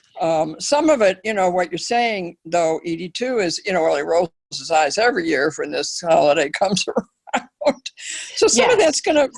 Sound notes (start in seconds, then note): 6.6 laugh